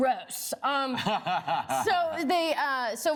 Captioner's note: laughs